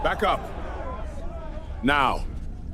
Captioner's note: angry crowd shouting